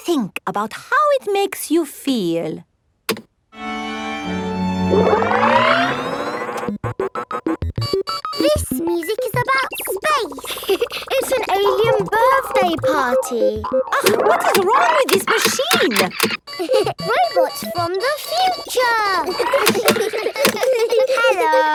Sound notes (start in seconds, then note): 4.0 chamber music dissolves into electronic beeping; 17.2 laughs; 19.9 kids giggling